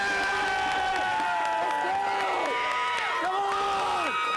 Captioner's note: students cheering